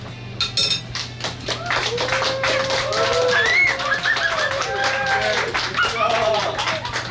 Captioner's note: cheering & Clapping